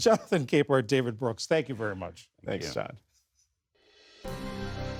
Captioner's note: laughter